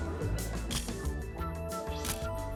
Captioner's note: camera shutter click